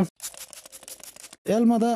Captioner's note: fis, Fis, Fis, Whistles